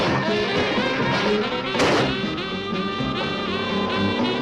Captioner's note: suspenseful music; ground rumbling